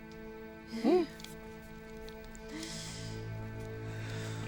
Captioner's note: Bambolona sighs